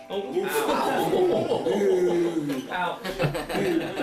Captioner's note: laughter